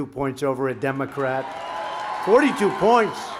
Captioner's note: applause